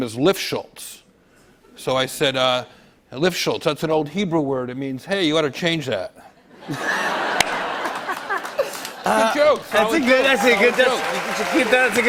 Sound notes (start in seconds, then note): 6.4 laughter